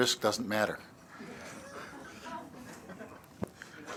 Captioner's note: laughter